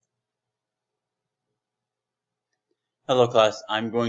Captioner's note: silence